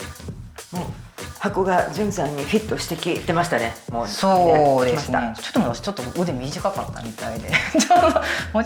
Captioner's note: laughs